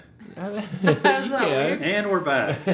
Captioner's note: laughs